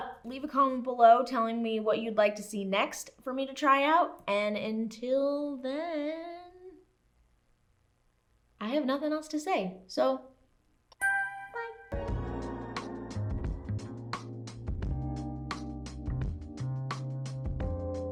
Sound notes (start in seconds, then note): 11.0 ding; 11.0 hip Hop Music